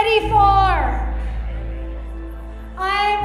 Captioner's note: group speaking quietly